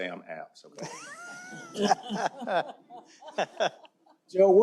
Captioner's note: laughter